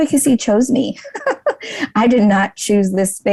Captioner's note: laughs